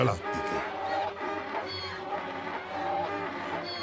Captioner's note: donkey's bray as laughters